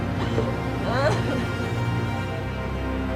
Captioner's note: sobbing